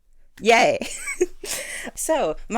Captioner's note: laughs